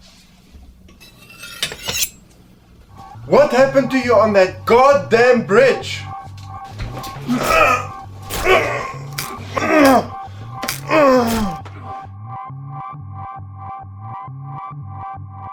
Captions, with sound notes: What happened to you on that god damned bridge? (groaning) (suspenseful music)